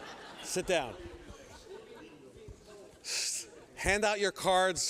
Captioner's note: laughter